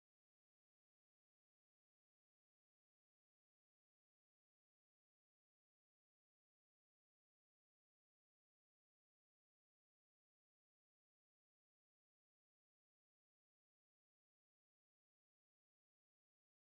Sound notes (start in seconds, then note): none